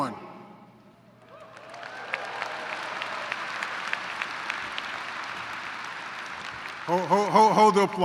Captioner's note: yelling, applause